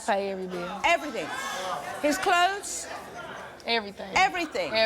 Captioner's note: audience shouting